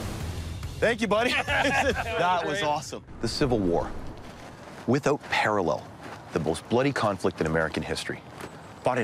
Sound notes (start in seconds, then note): 1.2 laughs